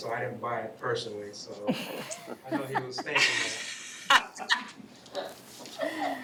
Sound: laughing

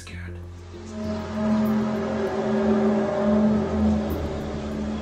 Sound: eerie buzzing noise

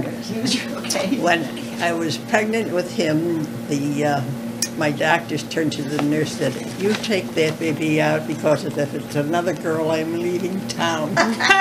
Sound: laughter

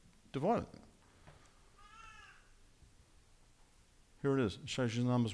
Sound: baby crying

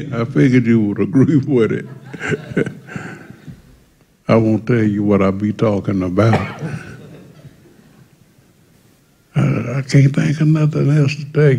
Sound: laughter

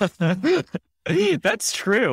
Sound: laughing

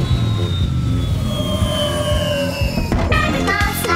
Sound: engine revving

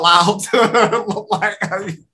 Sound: laughs

